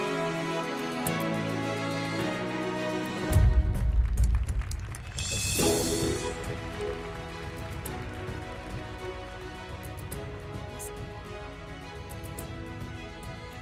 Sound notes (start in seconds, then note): 3.4 audience applauding; 6.4 uplifting music continues